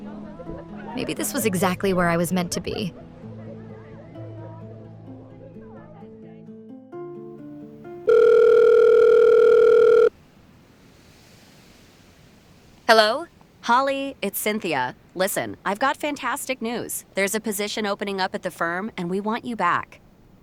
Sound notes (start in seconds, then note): 8.0 phone Rings